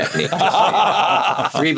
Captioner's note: all laugh